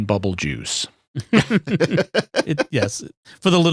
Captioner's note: laughing